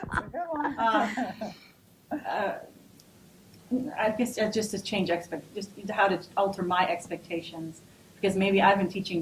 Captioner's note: laughs